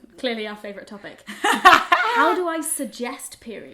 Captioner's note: laughs